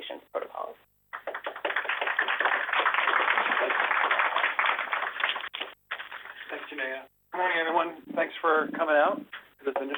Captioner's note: applause